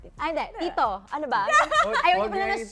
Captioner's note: laughter